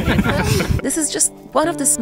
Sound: all laughing

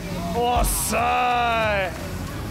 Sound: exclaims

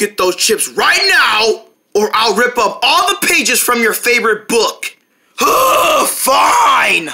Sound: groan

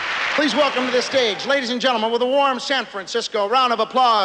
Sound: cheers and applause

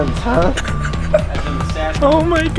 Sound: laughing

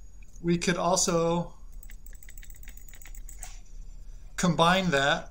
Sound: rapid mouse clicking

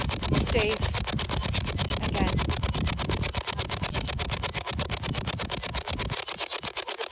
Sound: white noise from the spirit box

